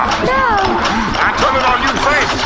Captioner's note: sex gun hums menacingly